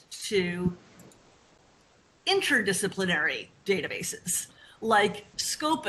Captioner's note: computer mouse clicks